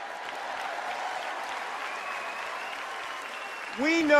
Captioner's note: applause